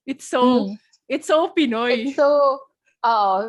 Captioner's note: filipino